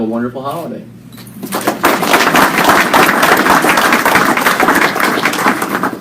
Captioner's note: applause